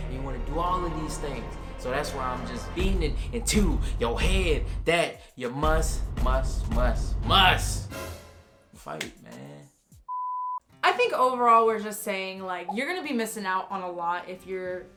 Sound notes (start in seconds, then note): 10.1 beep